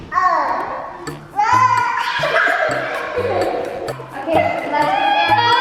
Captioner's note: upbeat music; kids giggling